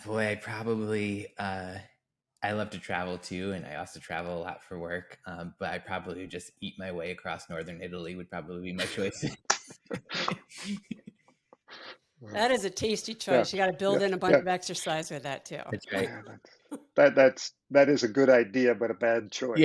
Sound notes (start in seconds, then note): 9.7 laughs